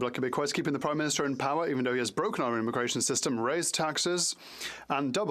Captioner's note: speaking French